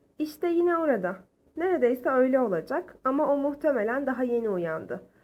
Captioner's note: speaking in foreign language